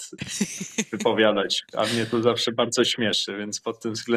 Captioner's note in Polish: śmiech